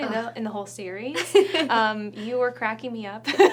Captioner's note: Alison laughing